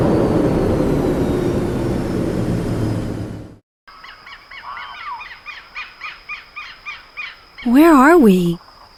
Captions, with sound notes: [engine slows] [jungle sounds] Where are we?